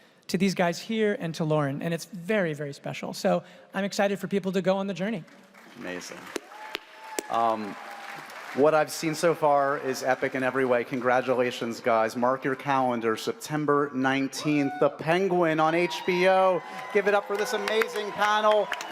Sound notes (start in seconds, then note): 5.4 audience cheers, applauds; 15.5 audience cheers